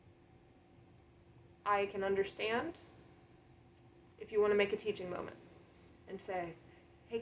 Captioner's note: long pause